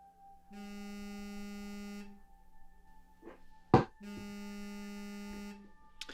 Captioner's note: phone vibrating